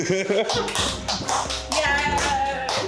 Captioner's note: laughs; applauds